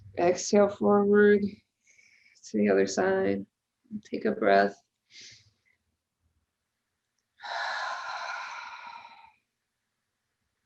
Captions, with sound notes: exhale forward (exhales) to the other side, take a breath. (inhales) (exhales sharply)